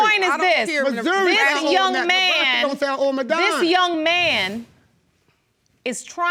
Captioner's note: yelling simultaneously